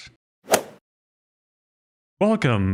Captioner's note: golf ball hit sound effect